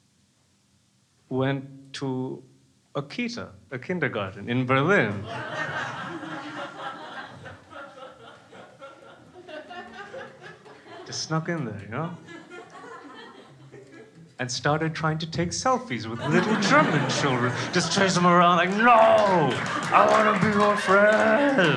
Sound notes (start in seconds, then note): 5.2 crowd laughing